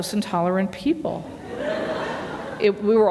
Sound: laughter

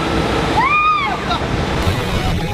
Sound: scream

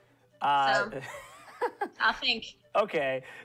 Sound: laughter

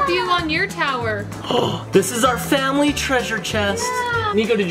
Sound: gasps

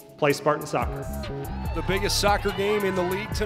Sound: cheering

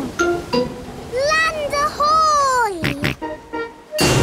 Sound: snorts

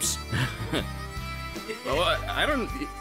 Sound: scoffs

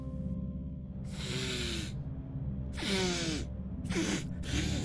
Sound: ominous music; snorting

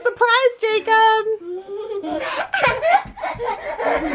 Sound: laughing

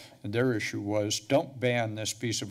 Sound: none

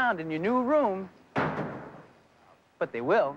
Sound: truck doors clang

